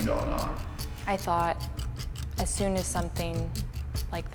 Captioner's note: voiceover